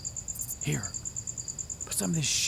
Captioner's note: Kinard, whispering